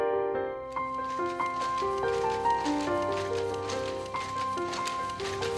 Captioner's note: looms clacking